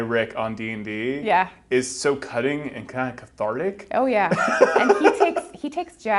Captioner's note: he laughs